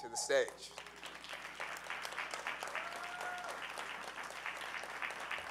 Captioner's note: audience cheering